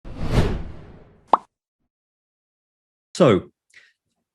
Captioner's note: air whooshing